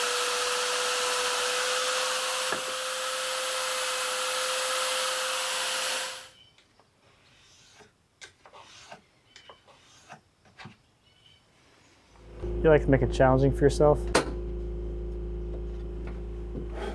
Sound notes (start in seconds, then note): 3.2 wood clunking; 7.1 pencil scraping